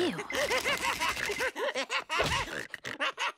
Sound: laughing

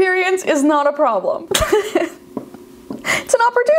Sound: laughs

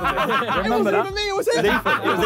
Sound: all laughing

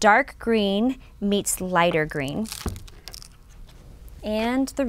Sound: crunching

